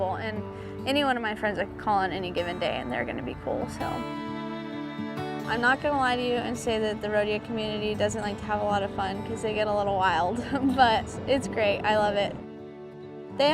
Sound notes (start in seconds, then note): 10.4 laughs